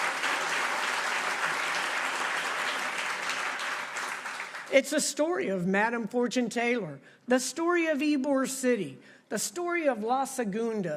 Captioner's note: applause